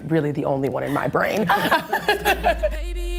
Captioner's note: laughter